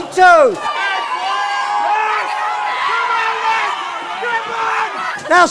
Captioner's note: crowd screams